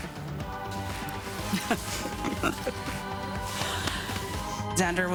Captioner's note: laughs